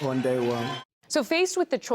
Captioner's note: cheering and applause